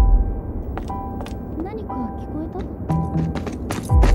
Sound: talking

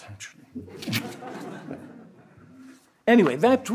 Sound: audience laughs

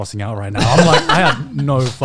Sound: laughs

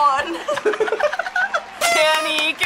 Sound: both laugh

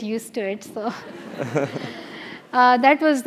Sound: laugh

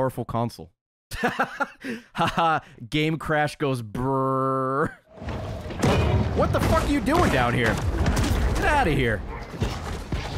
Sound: laughs

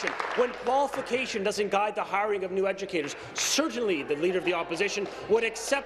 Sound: applause

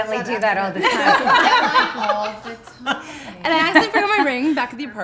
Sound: laughing

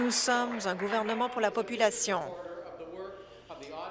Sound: applause

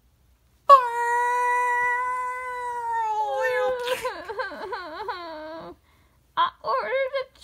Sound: crying

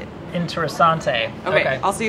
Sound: in foreign language

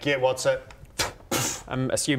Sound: poof!

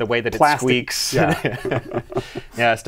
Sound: laughter

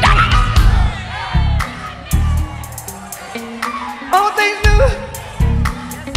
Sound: audience cheer

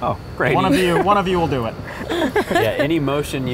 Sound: nervous laughter

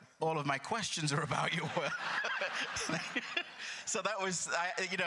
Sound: crowd laughter

